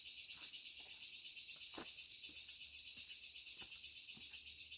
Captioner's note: insects buzzing